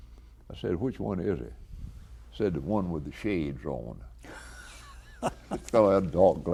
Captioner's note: chuckles